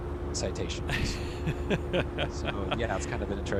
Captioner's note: laughs